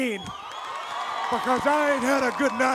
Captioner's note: audience applauds and cheers